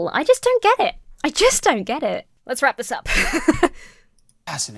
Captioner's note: laughs